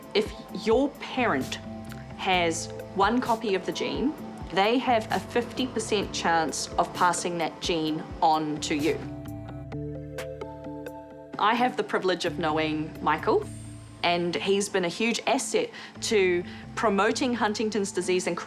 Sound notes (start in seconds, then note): none